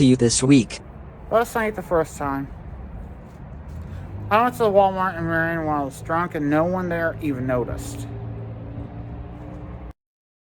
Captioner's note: drunken voice as Ava Willis